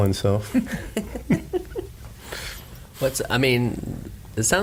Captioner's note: laughing